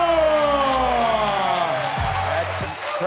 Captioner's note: cheering